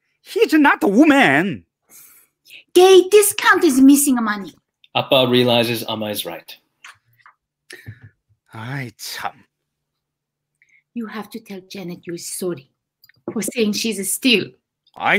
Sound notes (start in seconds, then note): 8.5 speaking in foreign language